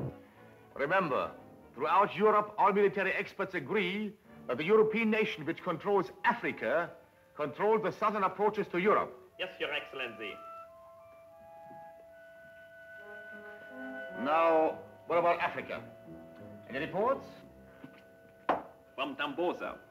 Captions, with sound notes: - Remember, throughout Europe all military experts agree that the European nation which controls Africa control the southern approaches to Europe. - Yes your Excellency (contemplative music) - Now, what about Africa, any reports? (heels click) - From Tambosa.